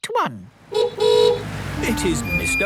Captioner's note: horn honking